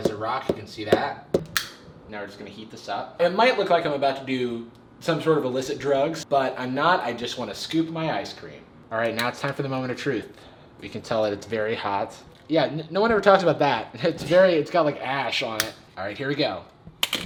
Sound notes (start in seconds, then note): 0.0 knocking; 1.5 clicks